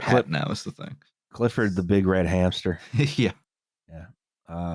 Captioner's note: laughs